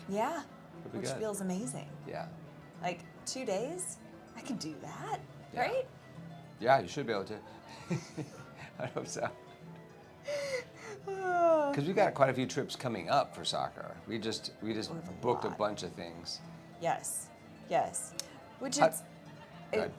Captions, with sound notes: Yeah, which feels amazing. Like two days, I can do that, right? Yeah, you should be able to. (laughs) I hope so. (sighs) Cause we've got quite a few trips coming up for soccer. We just booked a bunch of things. Yes, yes. Which is,